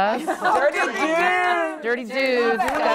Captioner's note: group laughing